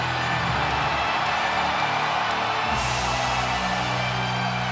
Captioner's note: audience cheers